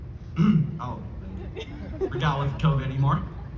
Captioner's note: laughter